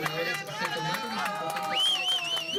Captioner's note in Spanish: aplausos